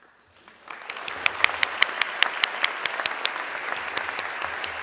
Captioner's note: everybody clapping